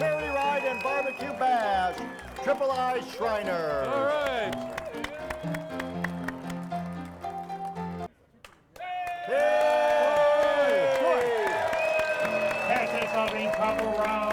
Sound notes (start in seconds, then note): 4.5 audience cheering; 6.0 upbeat piano music; 8.4 crowd clapping; 8.7 crowd cheering